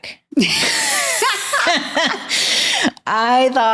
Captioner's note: both laughing